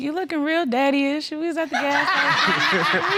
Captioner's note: all laughing